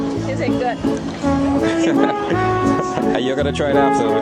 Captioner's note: nervous laughter